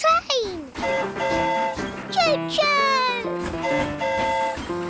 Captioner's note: train horn hooting